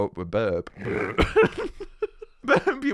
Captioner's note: burp